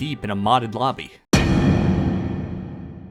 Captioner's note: thud sound effect